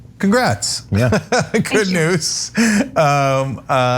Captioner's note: laugh